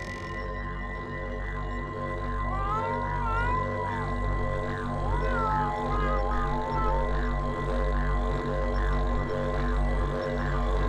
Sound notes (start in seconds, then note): 2.6 cat meows